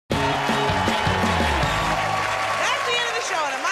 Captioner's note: cheers and applause